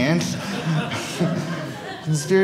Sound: audience laughing

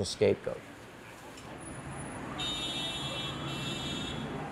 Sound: traffic bustling

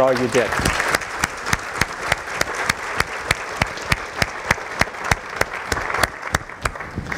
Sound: applause

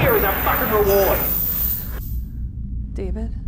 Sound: chains sliding and falling off onto the ground

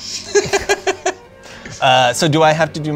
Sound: laughter

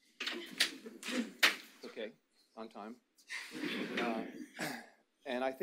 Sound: audience laughs

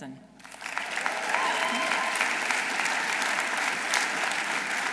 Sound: audience applauding

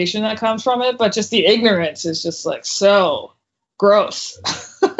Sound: laughs

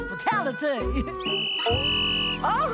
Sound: whistle blowing

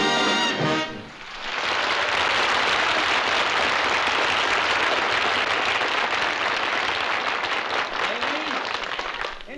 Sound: applause

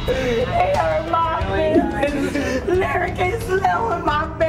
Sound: crying

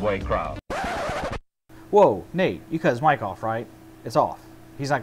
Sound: record scratches

